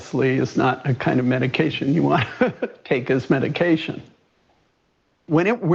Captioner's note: laughs